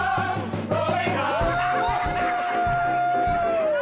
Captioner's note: laughter